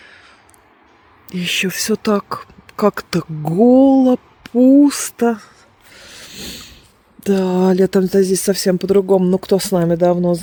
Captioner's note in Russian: фыркает